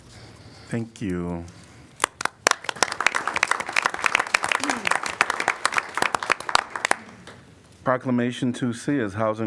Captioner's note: applause